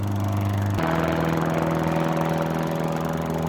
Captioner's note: plane sounds